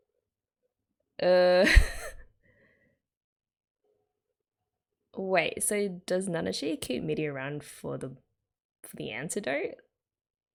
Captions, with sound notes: Uh... [laughs] wait so does nanashi keep Mitty around for the antidote?